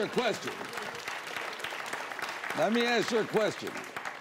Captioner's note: applause